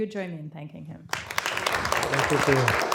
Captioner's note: applause